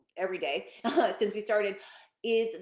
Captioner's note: chuckling